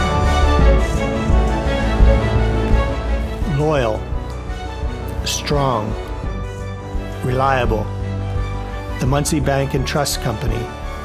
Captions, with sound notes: (Voiceover) Loyal. Strong. Reliable. (Voiceover) The Muncy Bank & Trust Company.